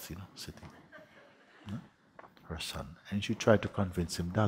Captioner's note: soft laughter